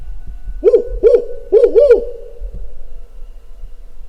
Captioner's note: howling